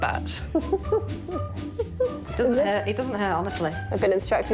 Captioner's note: laughs nervously